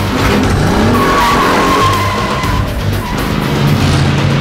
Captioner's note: tires squealing